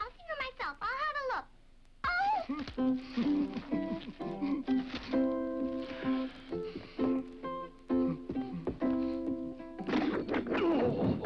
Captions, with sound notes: I'll have a look. Oh! (Dunderklumpen laughs) (peaceful guitar music) (Dunderklumpen hums) (chest thuds) (Dunderklumpen groans) (body thuds)